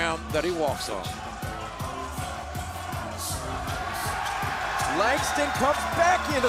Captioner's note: crowd cheering